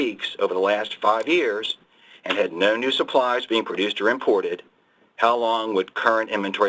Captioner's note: mouse click